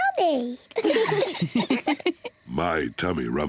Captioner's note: all laugh